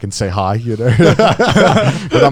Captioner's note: both laughing